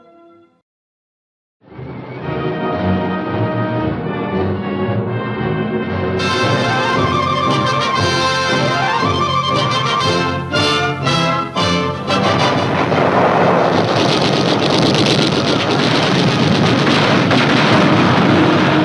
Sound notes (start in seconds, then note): 1.8 dramatic orchestral music; 12.6 guns firing